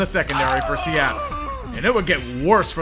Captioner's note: the sound of Injury Bowl agony